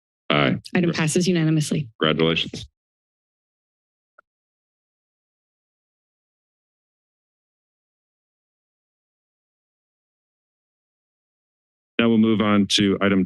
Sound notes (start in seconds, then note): 2.9 silence